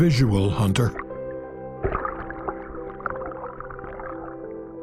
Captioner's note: water sloshes